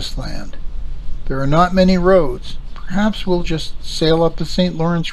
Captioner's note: wind blowing